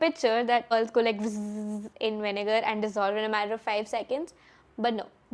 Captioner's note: bzzzzz